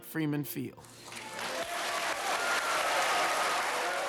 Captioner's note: cheers and applause